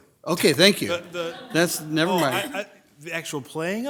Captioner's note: group laughs